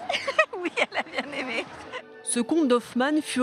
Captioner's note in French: rires